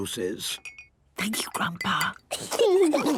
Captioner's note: Granny whispering; children giggling